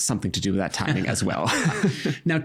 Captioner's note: both chuckling